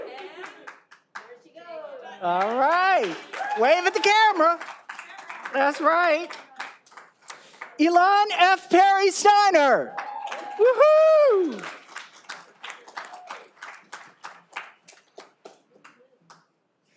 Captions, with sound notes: Wave at the camera. That's right. Elon F. Perry-Stiner. (all applauding)